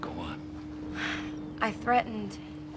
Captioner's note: sighs